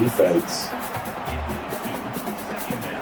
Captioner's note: crowd Noises